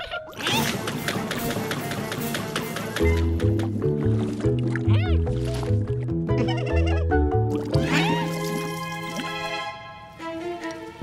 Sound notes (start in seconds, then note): 6.3 giggless